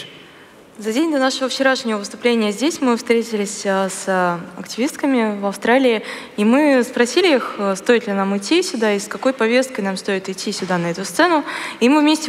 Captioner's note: foreign Language